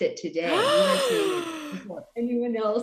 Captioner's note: gasps